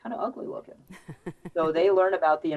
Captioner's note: laughs